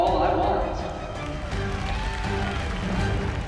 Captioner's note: cheering and applause